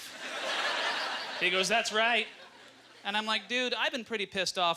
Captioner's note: audience laughter